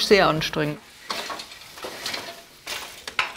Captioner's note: wooden clatter